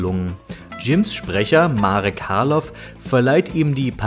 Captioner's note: german